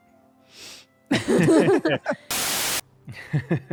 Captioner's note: everyone laughs